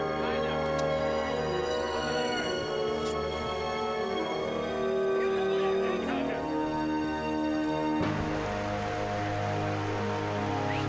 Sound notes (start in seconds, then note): 8.5 water running